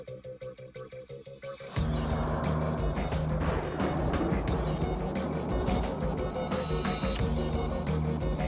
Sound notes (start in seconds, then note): 1.7 suspenseful music continues; 1.8 thunder rumbling